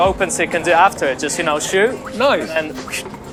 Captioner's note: swooshes